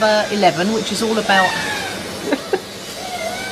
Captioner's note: loud drilling; children screeching